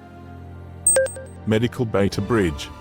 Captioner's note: com Chime